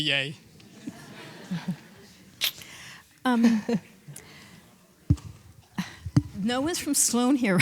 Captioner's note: laughs